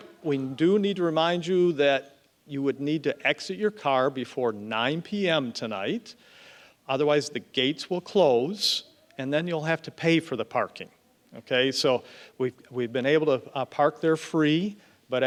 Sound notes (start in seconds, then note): none